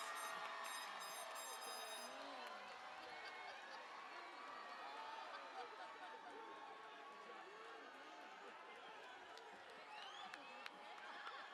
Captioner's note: cheering and Applause